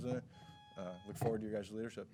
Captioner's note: timer buzzing